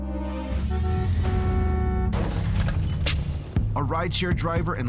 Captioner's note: car horn beeping